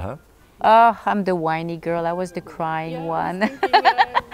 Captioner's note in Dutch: lacht